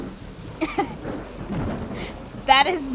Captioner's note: laughs